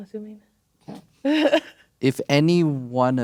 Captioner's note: laughing